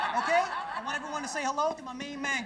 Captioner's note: audience laughing